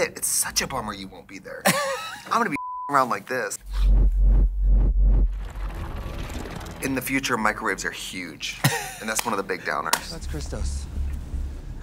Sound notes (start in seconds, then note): 1.7 Katya laughs; 3.6 whooshing sounds; 4.8 machinery whirs; 8.4 Katya laughs